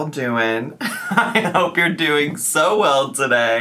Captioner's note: laughs